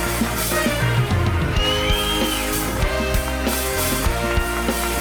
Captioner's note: audience applauds; upbeat music; audience whistles; audience applauds; upbeat music